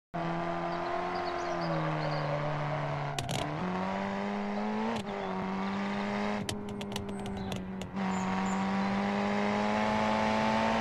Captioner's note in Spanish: Vroom Vroom noise